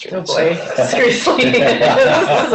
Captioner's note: laughter